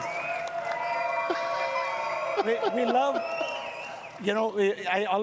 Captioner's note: chuckles